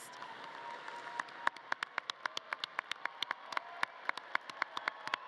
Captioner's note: audience cheering and clapping